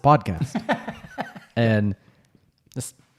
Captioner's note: laughs